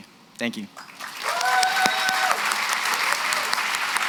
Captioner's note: applause, cheering